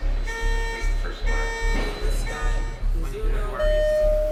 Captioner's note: beeping sounds